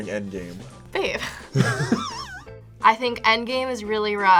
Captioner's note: both laugh